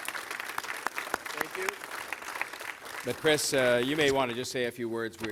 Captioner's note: applause